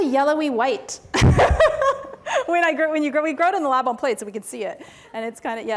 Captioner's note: laughs